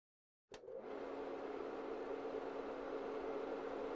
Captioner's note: projector clicks, whirrs